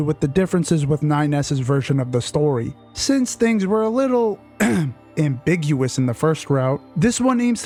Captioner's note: ahem